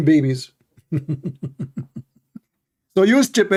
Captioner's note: Ketawa